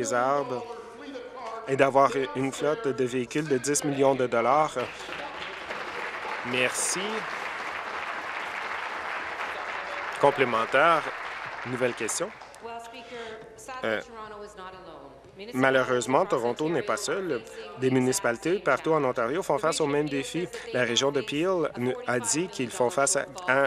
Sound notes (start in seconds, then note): 9.6 applause